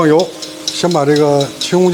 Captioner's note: sizzling